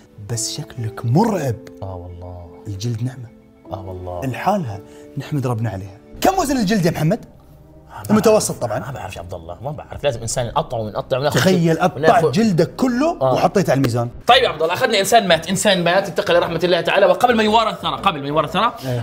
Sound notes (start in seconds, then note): none